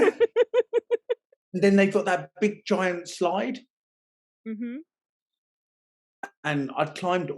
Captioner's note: laughing